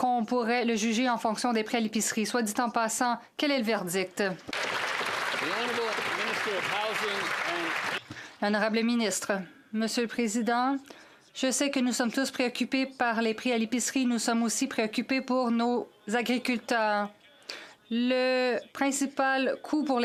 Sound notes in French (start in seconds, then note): 8.8 voix de l'interprète